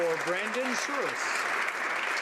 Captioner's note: applause